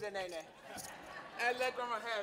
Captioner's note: laughing